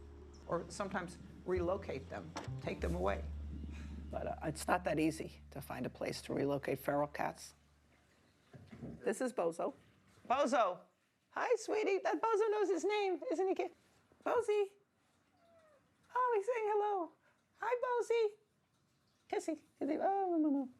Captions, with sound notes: or sometimes relocate them, take them away. But it's not that easy to find a place to relocate feral cats. This is Bozo. Bozo, hi, sweetie. Bozo knows his name, isn't he cute? Bozie. (cat meows) Oh, he's saying hello. Hi, Bozie, kissie. (laughs)